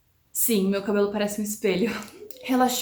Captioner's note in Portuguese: risos